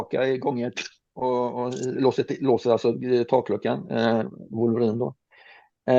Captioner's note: making metallic closing sound